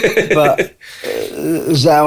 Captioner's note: laughs